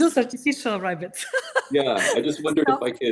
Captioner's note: laughing